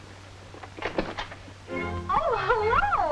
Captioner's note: door clicks